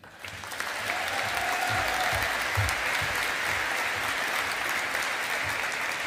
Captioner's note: audience applauding